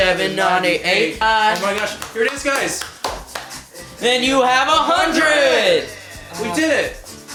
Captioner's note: clapping